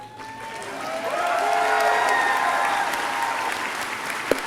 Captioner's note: audience cheering